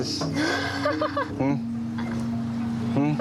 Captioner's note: laughs